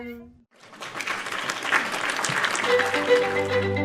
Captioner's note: applause